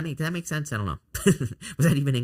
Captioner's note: laughs